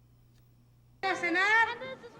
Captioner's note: foreign Language Spoken